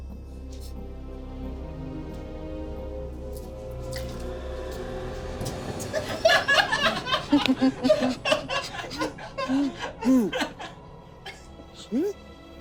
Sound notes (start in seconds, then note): 6.0 crew laughing; 6.9 dramatic music continues